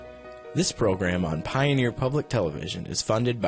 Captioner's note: voiceover